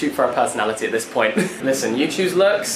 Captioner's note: laughs